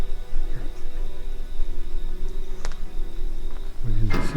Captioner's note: whispers